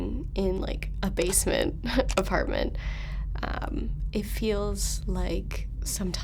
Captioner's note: muffled talking, laundry machine, electric buzz